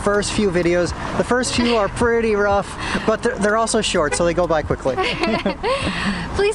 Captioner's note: laughter